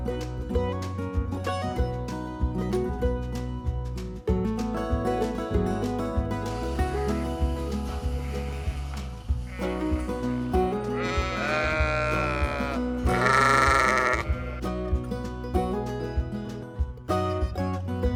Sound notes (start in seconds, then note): 0.8 gentle music; 13.0 sheep bleating